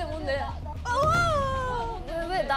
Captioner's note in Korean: 두둥